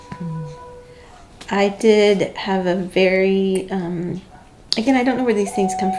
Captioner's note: voiceover